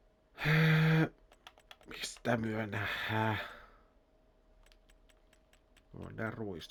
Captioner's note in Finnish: huokaus